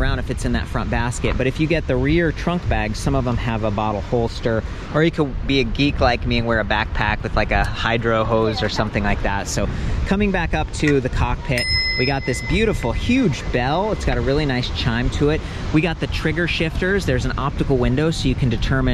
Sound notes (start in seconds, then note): 11.6 bell rings